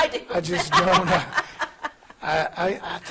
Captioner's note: laughing